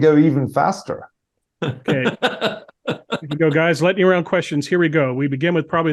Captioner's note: laugh